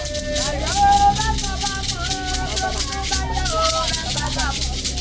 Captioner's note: women chanting